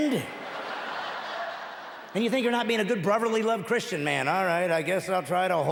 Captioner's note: laughing